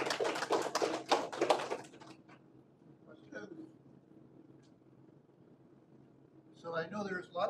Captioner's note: applause